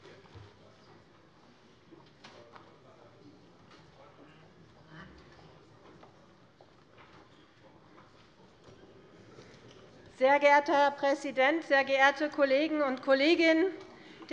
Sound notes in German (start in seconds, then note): none